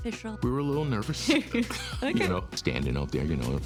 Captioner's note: both laugh